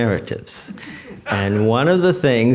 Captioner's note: audience laughs